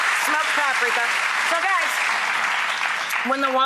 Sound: applauding

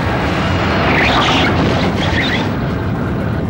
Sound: tires squealing

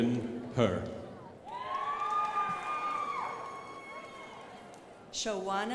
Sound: crowd applauding

